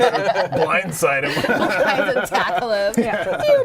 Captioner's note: laughter